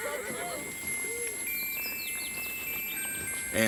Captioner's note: gang members laugh; pocket watch chimes melodically